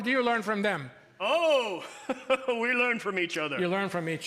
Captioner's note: jolly chuckle